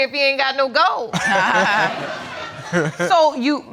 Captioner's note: all laughing